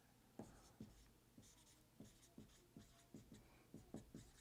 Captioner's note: pen scratching